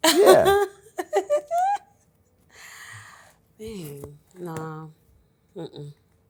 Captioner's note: laughs